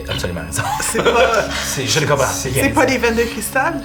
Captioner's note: he laughs